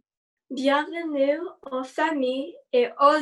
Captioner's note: speaking in French